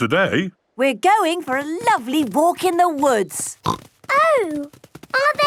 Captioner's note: snorting